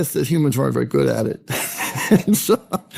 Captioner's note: laughing